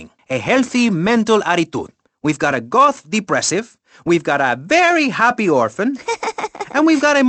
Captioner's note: Jenny softly laughs